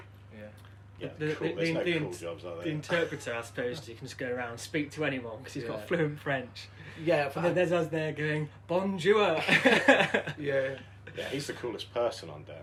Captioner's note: laughter